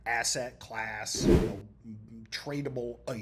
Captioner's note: text whooshing